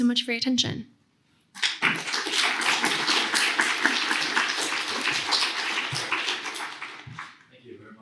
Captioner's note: applause